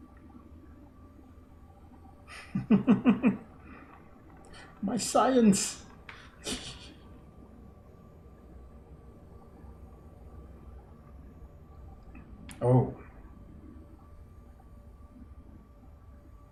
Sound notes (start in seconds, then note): 2.3 chuckles; 6.4 laughs softly